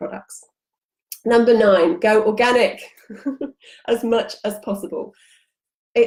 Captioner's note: chuckles